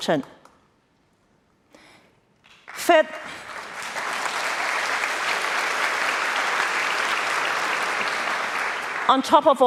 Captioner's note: applause